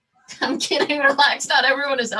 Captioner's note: laughing